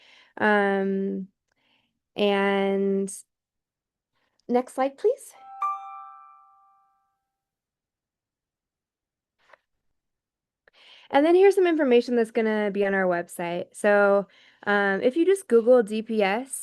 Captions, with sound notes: Next slide please. (bell chimes) And then here's some information that's gonna be on our website. So if you just Google DPS,